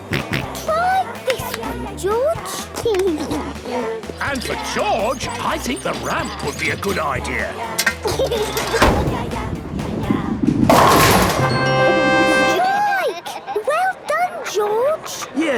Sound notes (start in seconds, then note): 0.0 George snorts; 2.4 giggles; 7.9 giggles